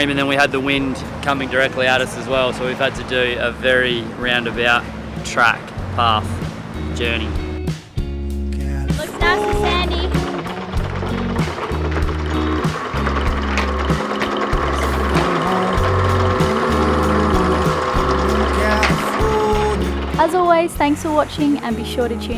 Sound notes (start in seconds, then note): 8.4 mellow rock music plays; 12.3 cogs turn